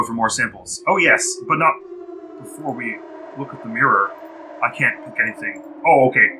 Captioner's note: a cacophonous wail echoes from outside the submersible